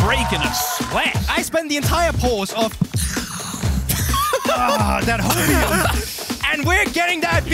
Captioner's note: inhales